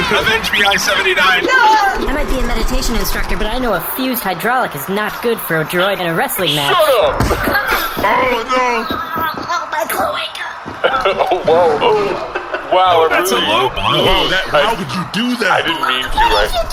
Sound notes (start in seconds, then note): 10.1 rasping; 12.3 choked